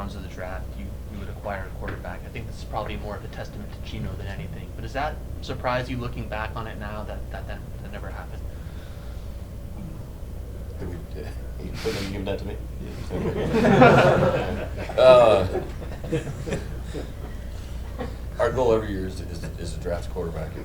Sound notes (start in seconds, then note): 12.8 group laughing